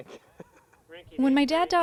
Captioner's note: man laughing